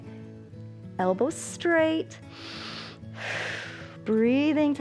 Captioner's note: inhales and exhales